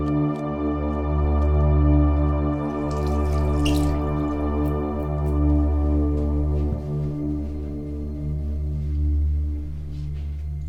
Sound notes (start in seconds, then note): 2.6 water sloshing; 3.1 eerie gentle music